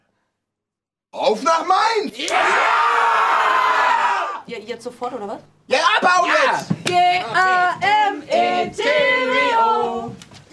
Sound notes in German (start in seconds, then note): 2.2 Jubel